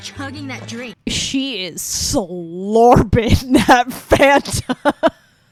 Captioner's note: laughs